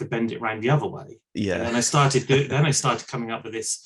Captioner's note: laughs